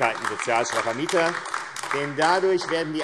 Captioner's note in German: Beifall AfD